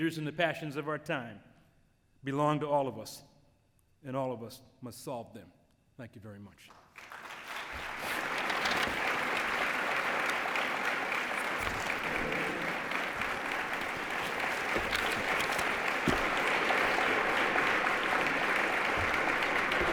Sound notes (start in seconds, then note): 6.8 applause